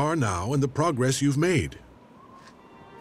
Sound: none

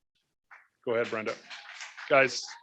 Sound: audience cheers and applauds

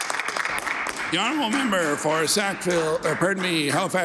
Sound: some Applause

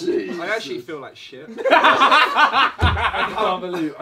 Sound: all laughing

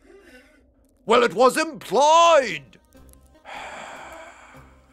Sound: sigh

